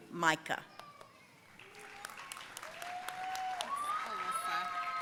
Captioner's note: audience cheering and applauding